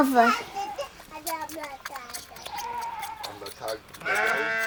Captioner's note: suckling sounds